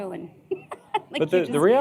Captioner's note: laughter